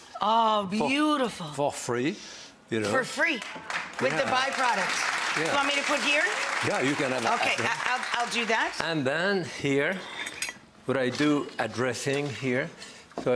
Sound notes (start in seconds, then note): 3.4 audience applauds